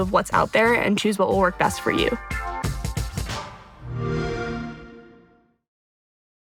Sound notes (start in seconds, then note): 3.7 Xbox sound